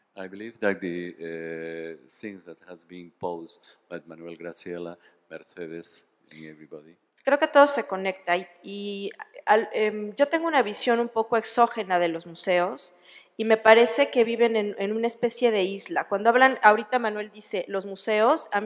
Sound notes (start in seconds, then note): 7.4 speaking spanish